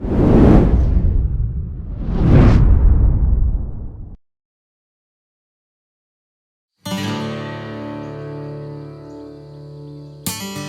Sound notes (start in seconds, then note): 0.0 wind gusts; 6.8 lighthearted guitar music